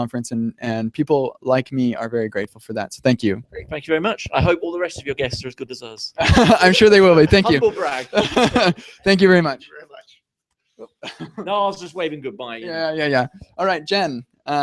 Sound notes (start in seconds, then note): 6.1 laughs